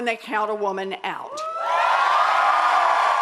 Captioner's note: cheering and applause